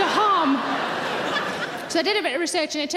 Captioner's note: audience laughing